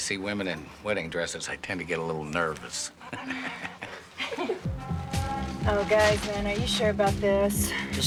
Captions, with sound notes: every time I see women in wedding dresses, I tend to get a little nervous. (chuckles) (laughs) Oh, guys, man, are you sure about this?